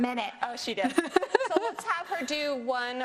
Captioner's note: laughs